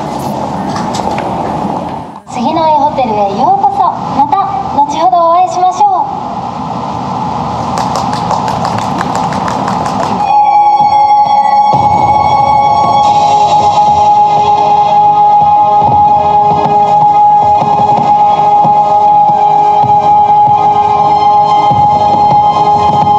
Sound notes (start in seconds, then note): 7.7 applause